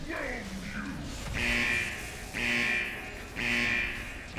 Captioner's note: horn honking